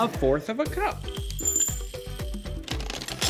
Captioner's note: seeds clinking